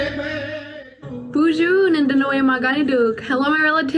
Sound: speaks in foreign language

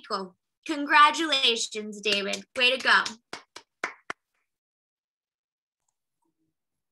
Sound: claps

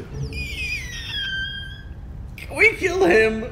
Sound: pathetic cry

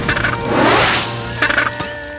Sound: squawking

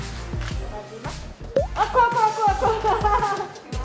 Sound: plop

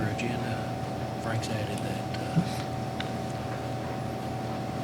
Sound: faintly speaking

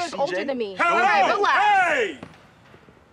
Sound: cop shouts

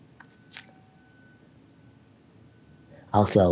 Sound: lips smacking

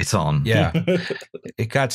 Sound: chuckles

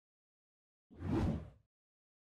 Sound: woosh

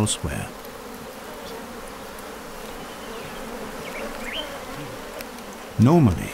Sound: bees buzzing

